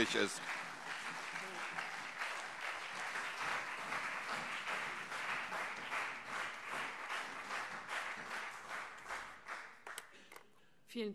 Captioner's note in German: Beifall CDU und SPD